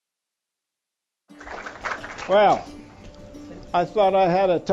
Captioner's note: applause